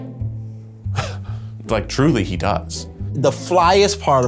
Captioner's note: chuckles